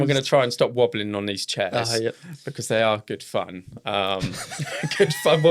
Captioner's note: laughing